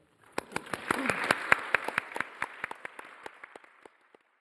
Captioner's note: audience applauding